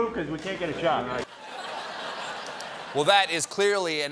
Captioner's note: laughter